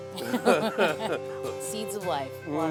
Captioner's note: laughs